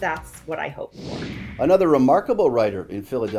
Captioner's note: computer whooshing